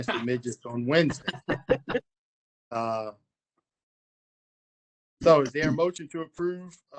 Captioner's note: laughter